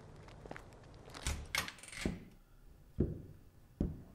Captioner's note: door opens